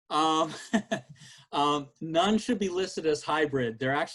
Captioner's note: chuckles